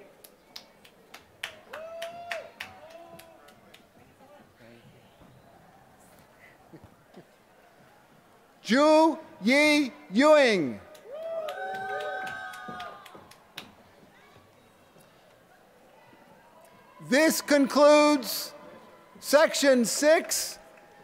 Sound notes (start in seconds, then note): 0.5 applause; 10.7 applause